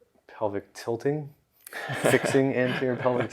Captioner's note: laughs